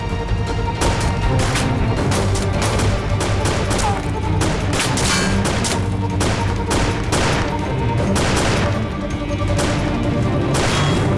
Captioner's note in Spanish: Disparos